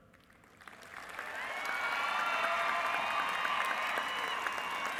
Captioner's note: applause and cheering